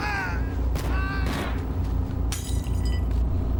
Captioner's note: people yelling; glass shattering